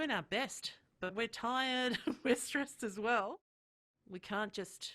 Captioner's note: chuckles